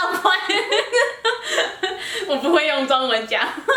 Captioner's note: laughter